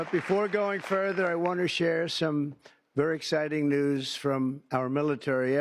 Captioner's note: cheers and applause